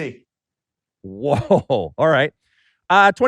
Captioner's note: laughing